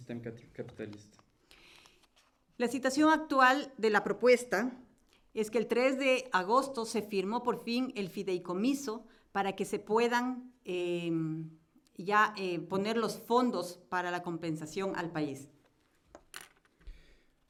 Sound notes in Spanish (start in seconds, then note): 1.9 Español